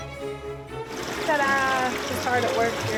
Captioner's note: majestic orchestral music; water sloshing; faintly speaks